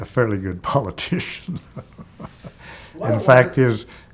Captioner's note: chuckling